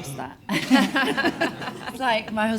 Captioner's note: all laugh